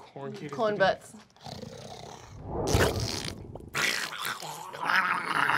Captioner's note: squelching and snarling